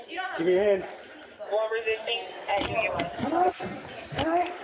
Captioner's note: radio chatter